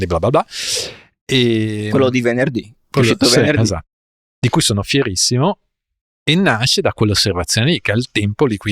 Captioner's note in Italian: sbuffare